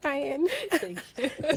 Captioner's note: laughing